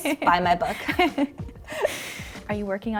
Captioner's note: both laughing